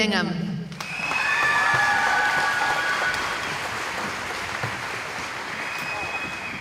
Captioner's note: cheering